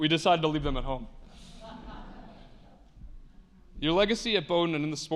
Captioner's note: attendees laughing